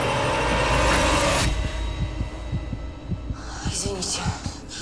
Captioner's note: heart beating